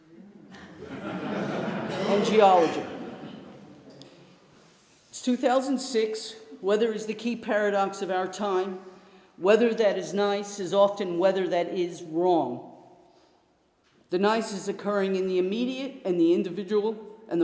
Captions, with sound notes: — [LAUGHTER] — ..and geology. It is 2006. Weather is the key paradox of our time. Weather that is nice is often weather that is wrong. The nice is occurring in the immediate and individual